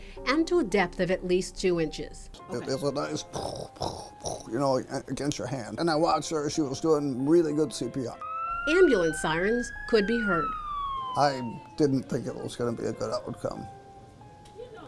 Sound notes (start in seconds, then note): 7.8 sirens wail; 8.8 voiceover